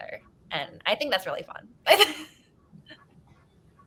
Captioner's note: laughing